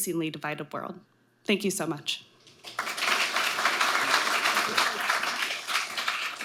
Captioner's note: audience applauding